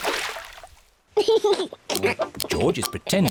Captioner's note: laughs